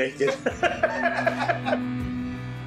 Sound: both laugh; slow rock music

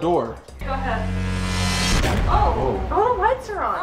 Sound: buzzing

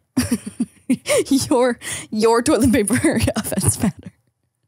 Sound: giggling

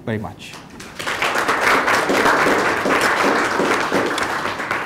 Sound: audience applauding

